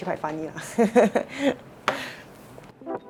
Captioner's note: laughs